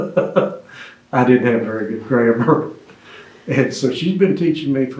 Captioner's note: laughs